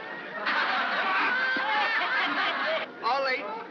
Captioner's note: crowd laughs